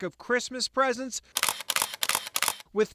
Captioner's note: camera shutters